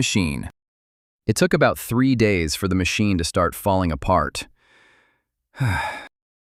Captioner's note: sighs